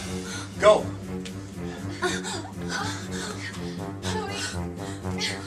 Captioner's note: gasping